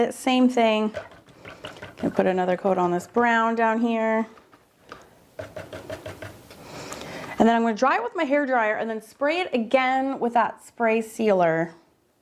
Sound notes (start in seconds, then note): 5.3 liquid splashing; 5.3 paint brush thudding